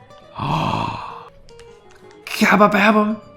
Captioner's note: gasps